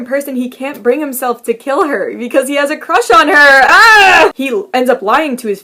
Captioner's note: screams